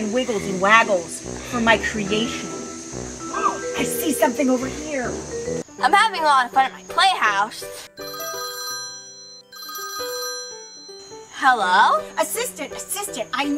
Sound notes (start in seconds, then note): 8.0 cell Phone Rings